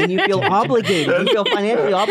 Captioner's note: laugh